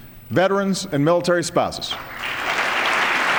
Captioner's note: applause